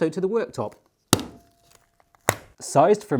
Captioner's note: thudding